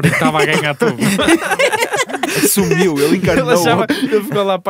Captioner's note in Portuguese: risos